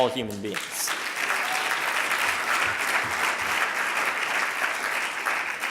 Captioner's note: audience applauding